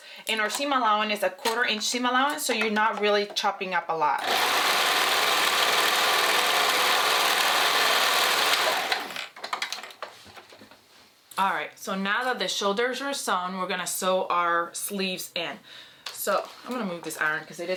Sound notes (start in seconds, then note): 4.2 sewing machine whirring